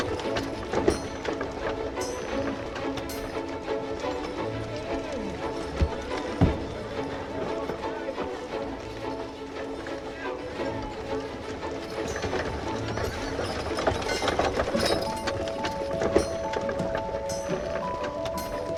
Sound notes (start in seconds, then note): 0.1 lively music continues; 10.7 lively music continues; 10.7 people chattering